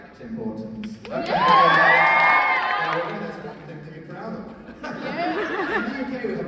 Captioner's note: laughs